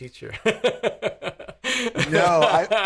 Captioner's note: laughing